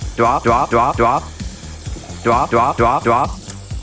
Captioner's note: sound of washing webfoot octopus cleanly